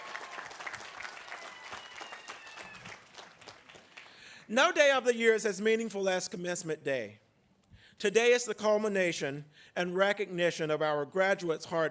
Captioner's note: applause